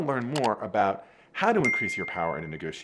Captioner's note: mouse clicking; bell ringing